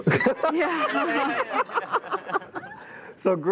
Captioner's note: laughing